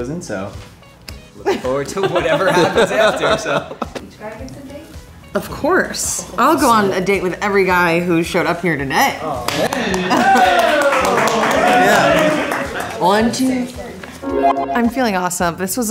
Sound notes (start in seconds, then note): 9.7 group cheering